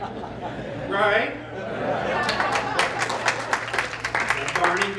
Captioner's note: laughter and applause